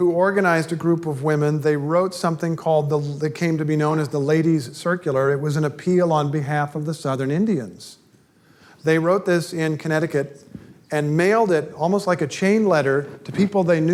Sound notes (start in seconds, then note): none